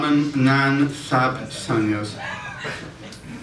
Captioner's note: audience Reaction